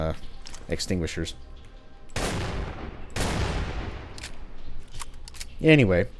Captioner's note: boom